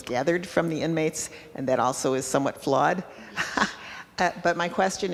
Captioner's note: laughing